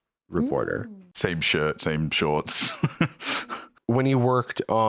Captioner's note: laughs